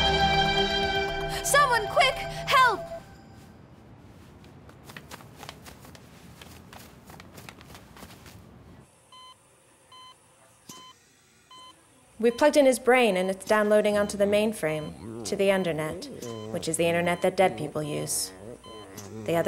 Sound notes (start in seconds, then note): 9.2 life support beeping